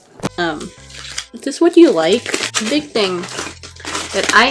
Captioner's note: foil ripping